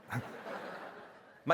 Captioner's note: laughter